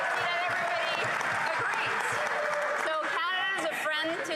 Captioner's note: some Applause